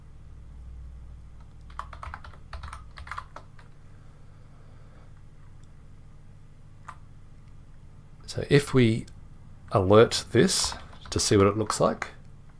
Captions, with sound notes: (keyboard typing) So if we alert this to see what it looks like,